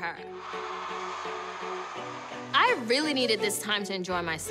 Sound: cheering, applauding

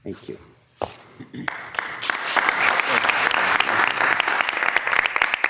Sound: audience applauding

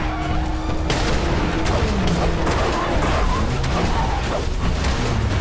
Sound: tires screeching; rapid crashing

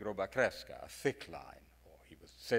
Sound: speaks in foreign language

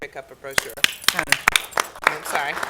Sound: applause

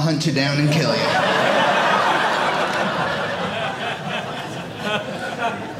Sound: audience laughing

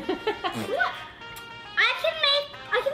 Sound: laughs

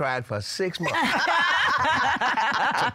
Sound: laughter

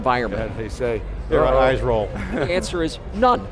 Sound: laughs

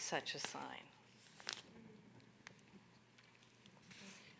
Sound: paper rustling

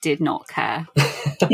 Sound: laughs

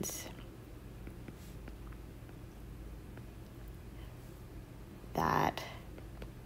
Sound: digital pen tapping noise

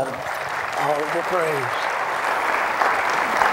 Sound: applause

